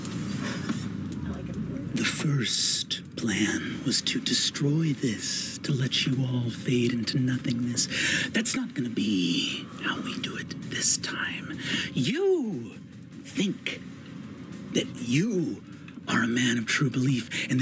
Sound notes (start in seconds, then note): none